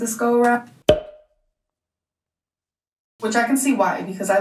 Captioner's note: pop